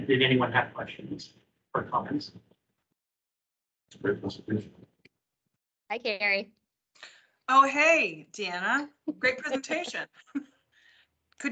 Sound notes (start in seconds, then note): 4.5 speaking faintly; 9.7 chuckling